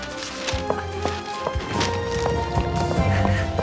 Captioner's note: panting